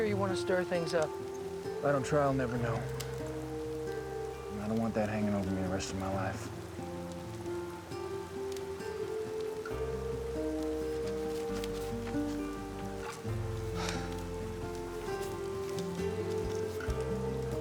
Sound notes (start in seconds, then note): 11.7 huffs tensely